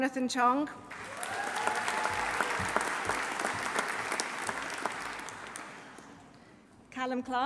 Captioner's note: audience applauding; audience cheering